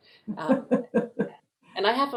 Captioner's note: laughs